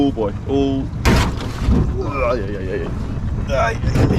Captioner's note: boat thuds